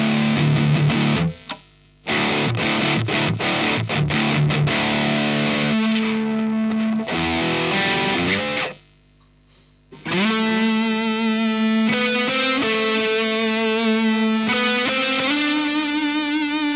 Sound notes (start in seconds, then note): 1.9 High gain sound; 9.8 High gain sound with delay